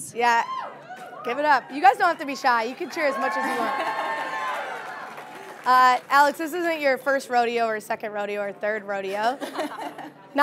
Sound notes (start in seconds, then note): 3.8 audience cheering